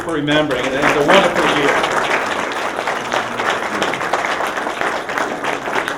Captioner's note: applause